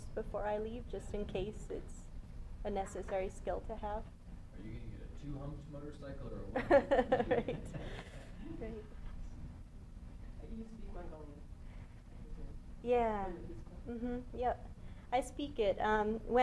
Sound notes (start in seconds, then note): 6.5 laughter